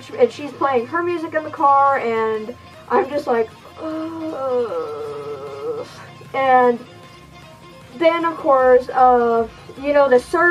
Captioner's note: groany sigh